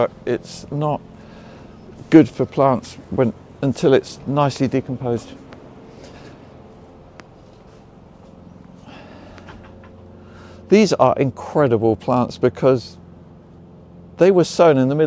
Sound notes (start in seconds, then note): 5.6 mower groaning